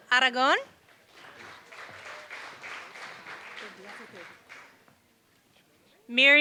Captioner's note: applause